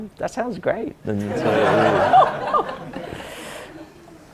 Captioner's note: audience laughs